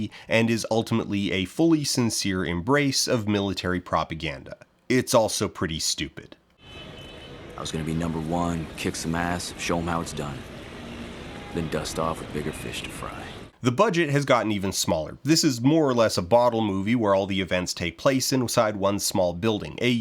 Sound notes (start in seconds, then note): 6.6 honking car horns, general city noise